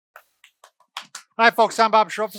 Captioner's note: claps